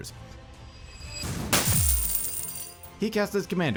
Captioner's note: coins clatter